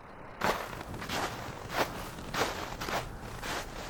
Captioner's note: snow crunching